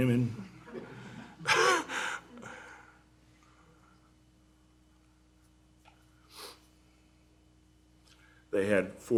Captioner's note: laughter